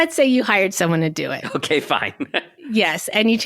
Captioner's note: chuckling